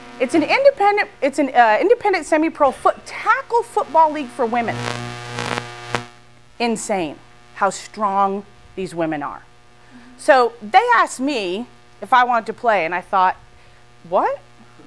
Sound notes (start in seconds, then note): none